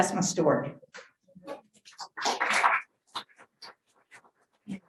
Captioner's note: audience applause